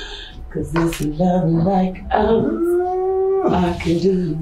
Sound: cat singing

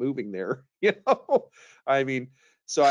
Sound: laughs

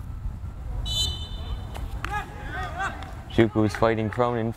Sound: whistle blows

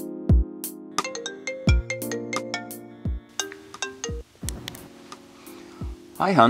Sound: phone Ringing

